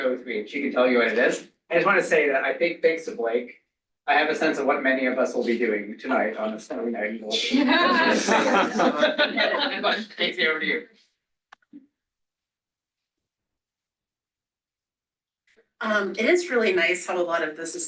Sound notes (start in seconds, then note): 7.4 laughter